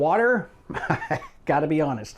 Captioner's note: laughing